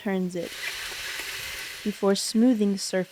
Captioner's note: tiller whirring